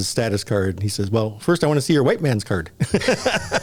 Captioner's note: laughter